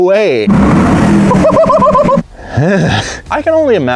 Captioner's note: engine revving